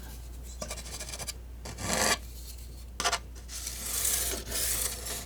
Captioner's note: scratching